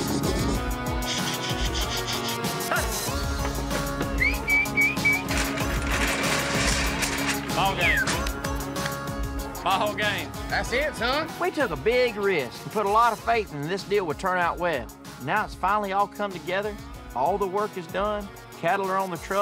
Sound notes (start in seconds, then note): 4.1 whistling